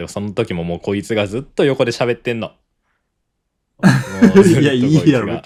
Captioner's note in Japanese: 笑い